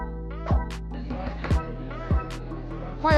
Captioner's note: students talking